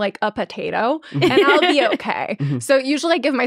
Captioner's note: laughing